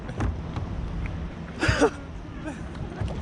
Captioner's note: laughing